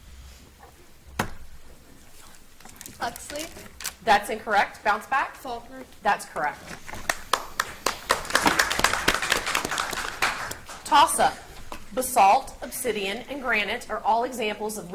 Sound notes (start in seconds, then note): 7.0 audience applauds